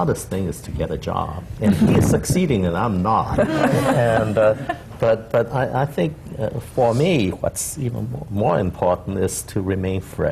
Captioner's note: laughter